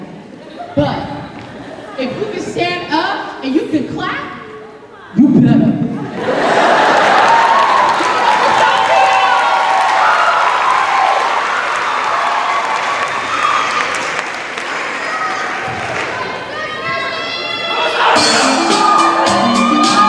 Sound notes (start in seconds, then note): 0.4 laughter; 5.9 laughter; 6.2 cheers and applause